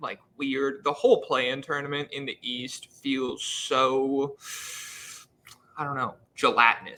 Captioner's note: inhales sharply